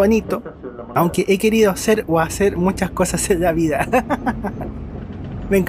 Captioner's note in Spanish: risas